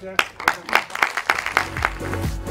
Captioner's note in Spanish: aplausos